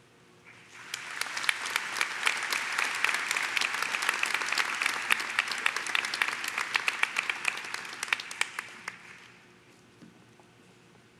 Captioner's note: Applaudissements